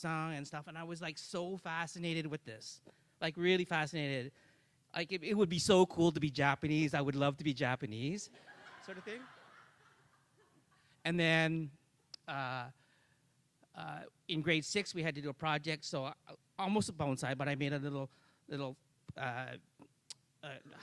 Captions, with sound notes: San and I was like so fascinated with this, like really fascinated, like it would be so cool to be Japanese, I would love to be Japanese sort of thing (audience laughs). And then, in Grade 6 we had to do a project, so almost a bonsai but I made a little